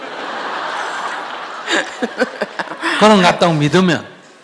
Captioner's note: questioner/Audience Laughter